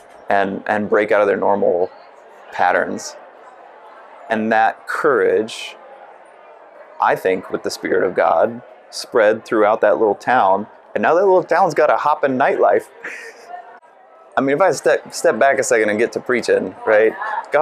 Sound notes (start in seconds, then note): 12.8 laughs